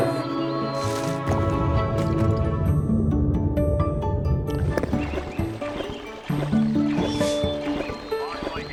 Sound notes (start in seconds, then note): 1.6 water burbling; 3.2 cheerful music; 4.5 birds chirping; 7.1 woofs